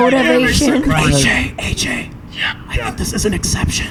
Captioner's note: whispering